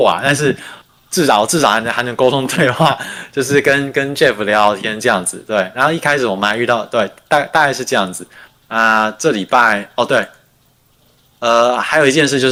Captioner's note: non-english speech